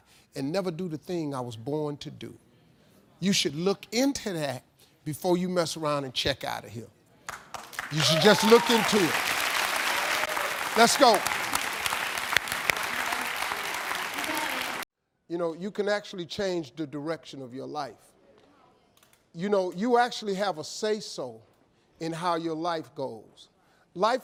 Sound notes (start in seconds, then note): 7.1 audience cheering; 11.9 audience applauding